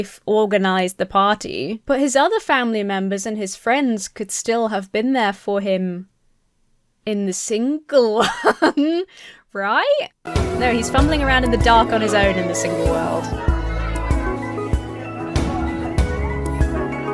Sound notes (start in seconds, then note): 13.3 family chattering happily; 13.3 uplifting music